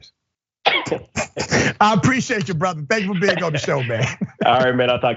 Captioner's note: laugh